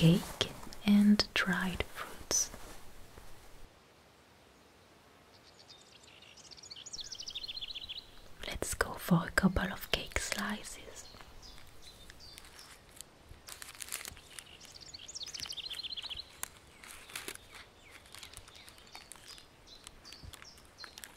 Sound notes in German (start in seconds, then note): 13.3 Papierknistern